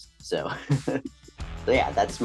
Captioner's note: laughing